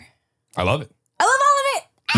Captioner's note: shrieks